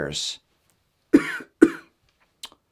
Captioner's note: cough, cough